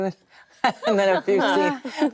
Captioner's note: laughing